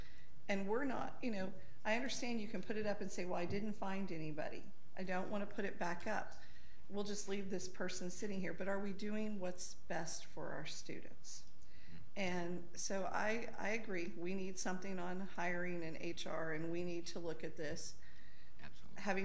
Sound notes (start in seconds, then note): none